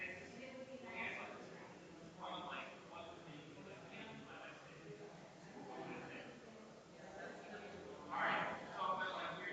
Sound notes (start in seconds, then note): 0.0 people chattering distantly continues